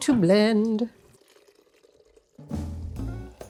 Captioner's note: soup pouring into blender; jazz music plays